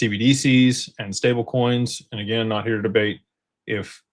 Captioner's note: none